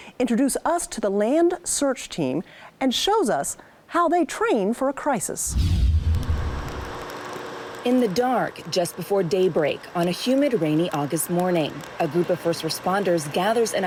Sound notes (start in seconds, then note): 5.4 wind whooshing